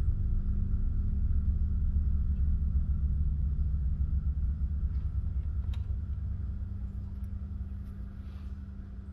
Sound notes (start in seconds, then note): 5.8 lock clicks